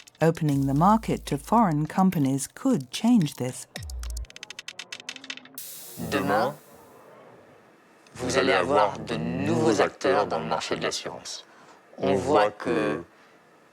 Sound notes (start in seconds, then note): 6.1 speaking in foreign language